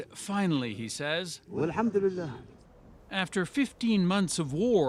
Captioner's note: speaking alternate language